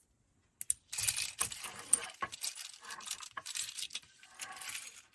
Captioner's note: buttons rattle